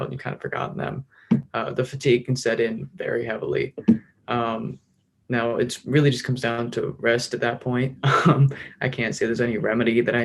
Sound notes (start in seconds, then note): 8.0 chuckles